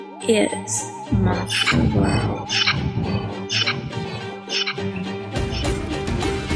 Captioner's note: scary voice